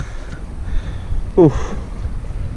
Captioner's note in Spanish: respiración